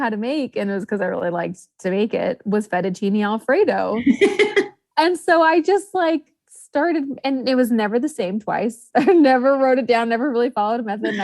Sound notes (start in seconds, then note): 4.0 host laughs; 11.0 laughs